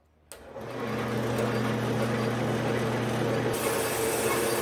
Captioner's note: band saw running